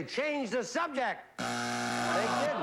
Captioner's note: buzzer